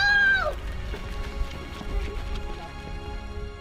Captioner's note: footsteps running in sand